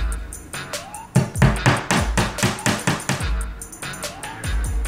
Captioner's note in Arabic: يدق